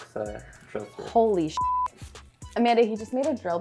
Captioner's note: beep